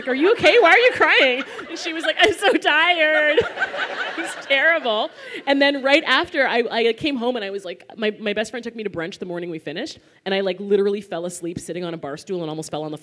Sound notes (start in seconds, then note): 4.0 laughter